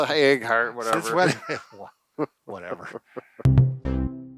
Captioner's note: laughing; upbeat tones